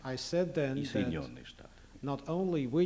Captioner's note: non-english speech